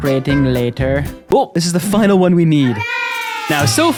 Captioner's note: hooray!